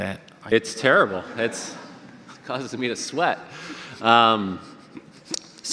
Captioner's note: audience laughter